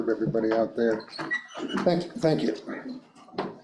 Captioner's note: door squeaking